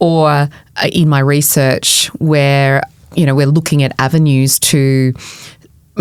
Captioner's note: none